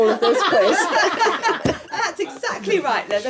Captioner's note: laughing